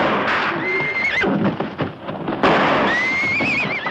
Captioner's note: gunfire; horse whinnying; horse whinnying